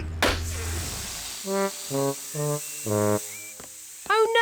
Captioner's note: laughs; tire pops, hisses